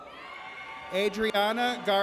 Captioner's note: audience cheers